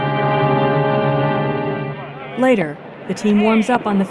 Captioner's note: crowd noise